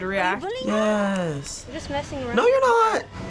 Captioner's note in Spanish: chasquido